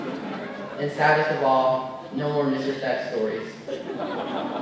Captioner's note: laughter